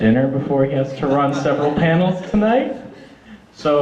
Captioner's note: audience laughter